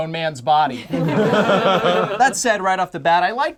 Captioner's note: group laughs